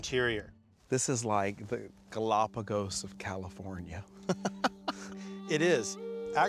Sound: laughter

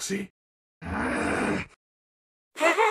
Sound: grunts angrilly; laughs

